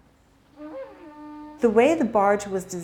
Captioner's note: conch shell blowing